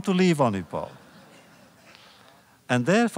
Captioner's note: laughter